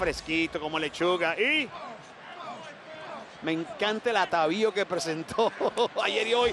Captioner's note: laugh